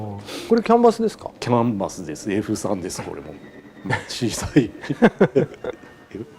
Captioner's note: laughs